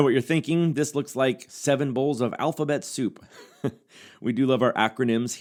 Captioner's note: chuckles